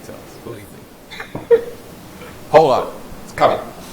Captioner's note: laughs